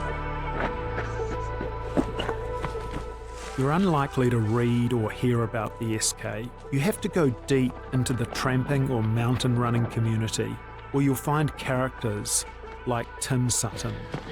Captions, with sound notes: (footsteps crunching) You're unlikely to read or hear about the SK. You have to go deep into the tramping or mountain running community, where you'll find characters like Tim Sutton.